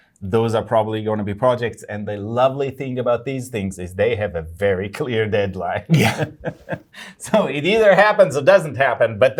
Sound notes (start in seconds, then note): 5.8 laughing